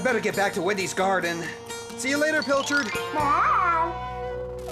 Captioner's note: none